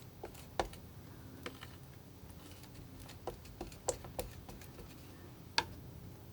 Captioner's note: tapping